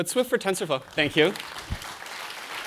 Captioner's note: applause